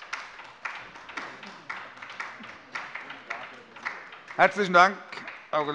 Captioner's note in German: Beifall bei der LINKEN